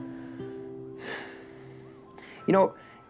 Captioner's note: exhales